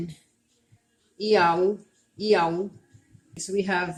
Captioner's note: speaking Abenaki